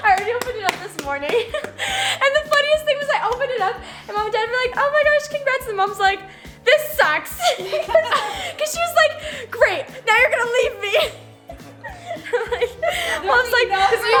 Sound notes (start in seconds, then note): 0.0 clapping; 7.3 laughs; 11.9 laughing